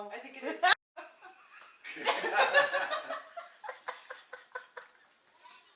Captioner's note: laughter